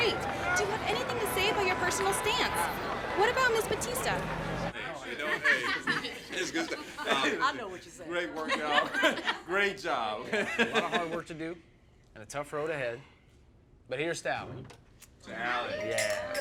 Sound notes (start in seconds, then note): 3.1 people talking together